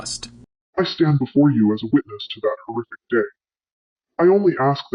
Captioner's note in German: verzerrt